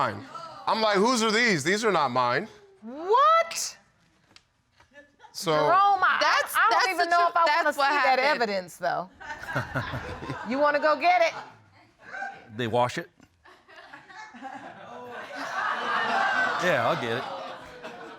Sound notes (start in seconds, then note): 9.3 all laughing; 13.7 audience laughing